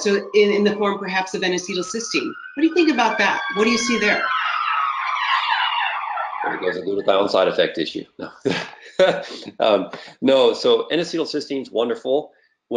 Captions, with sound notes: So in the form perhaps of N-acetylcysteine. What do you think about that, what do you see there? (sirens blaring) - There goes a glutathione side effect issue. No (laughs). No so N-acetylcysteine's wonderful,